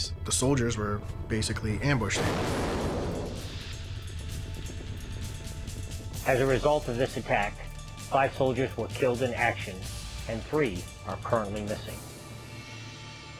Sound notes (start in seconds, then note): 2.1 gunfire